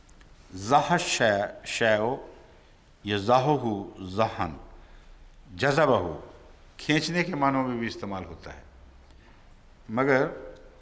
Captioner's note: Arabic